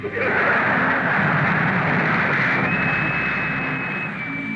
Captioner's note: crowd laughs